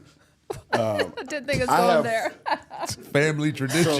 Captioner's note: laughs